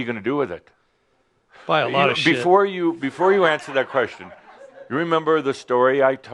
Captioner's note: laughter